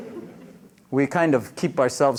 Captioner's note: laughter